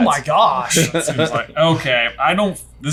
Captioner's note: chuckles